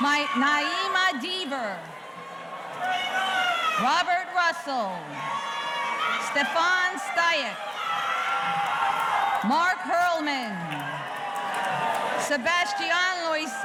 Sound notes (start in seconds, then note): 0.0 audience cheering; 7.7 audience cheering